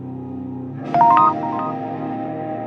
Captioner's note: text sound; dark music